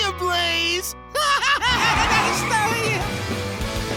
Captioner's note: laughing